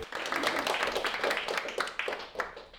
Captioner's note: applause